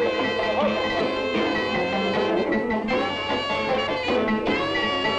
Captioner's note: customers chattering